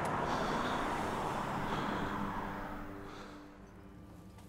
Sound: breathing sounds

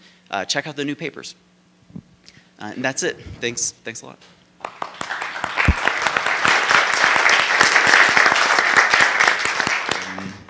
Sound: clapping

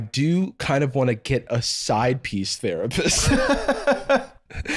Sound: laughing

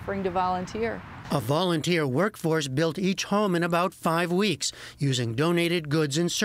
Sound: voice-over

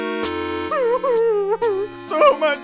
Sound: crying

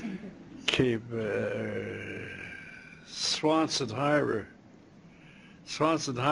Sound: non-english speech

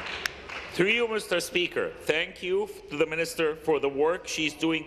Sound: applause

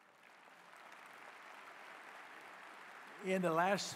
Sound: applause

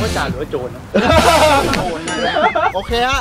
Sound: laughs

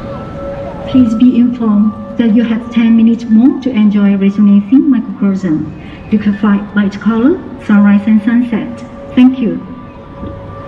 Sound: announcement in background

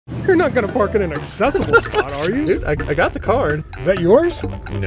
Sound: laughing

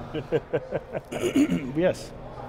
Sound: host laughing

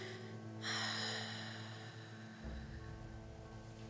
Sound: deep sigh

